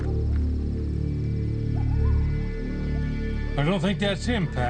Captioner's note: footsteps crunching; coyotes howling